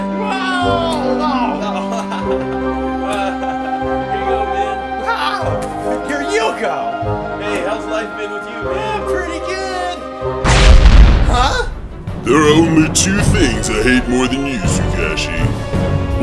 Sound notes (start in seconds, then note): 1.5 laughter